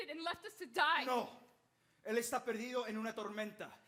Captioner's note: speaking Spanish